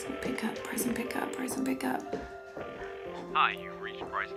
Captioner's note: phone ringing